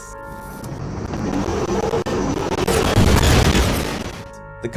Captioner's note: synthesized screaming